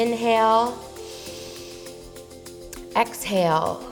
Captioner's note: inhales